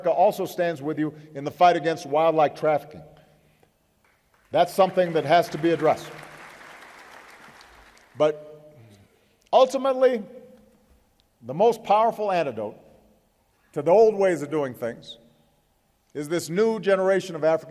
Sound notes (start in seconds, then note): 7.5 applause